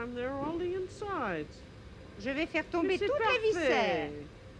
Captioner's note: conversing in french